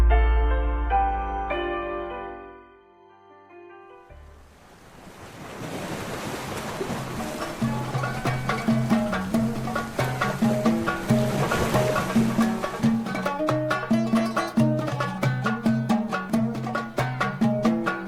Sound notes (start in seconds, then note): 4.8 waves splashing; 7.4 upbeat music